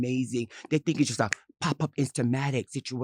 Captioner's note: snaps fingers